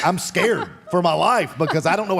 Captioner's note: Michelle laughs